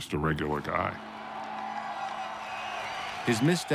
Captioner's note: crowd cheering